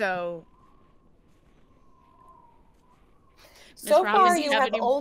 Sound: wind whistling

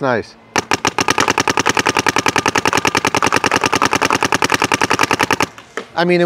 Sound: paintball gun shooting rapidly

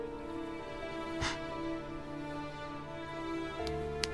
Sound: crying

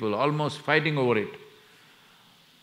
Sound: none

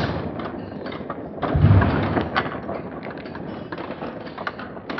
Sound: slow-mo MMX sounds continues

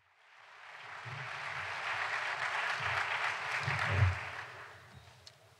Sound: applause

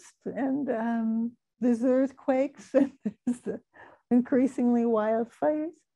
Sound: laughing

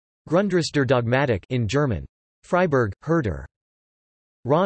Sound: in German

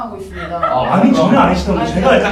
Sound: keeping in laughter

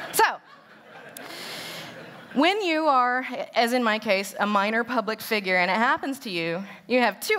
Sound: laughter

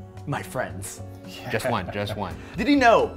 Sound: chuckling

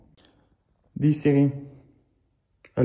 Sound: in french

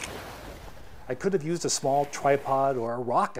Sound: camera beeps and clicks

